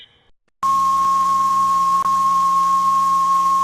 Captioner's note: film beeping